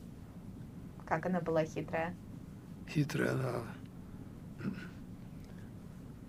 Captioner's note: clears throat